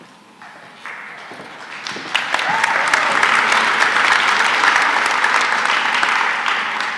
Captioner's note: applause